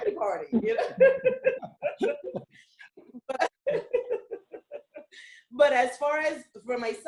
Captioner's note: laughter